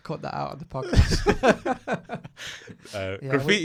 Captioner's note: laughs loudly